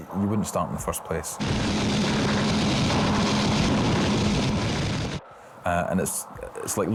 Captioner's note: lifeboat engine whirring